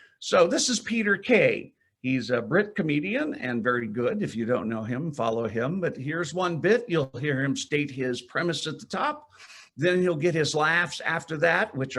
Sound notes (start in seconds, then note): none